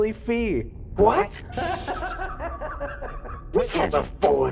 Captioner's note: laughs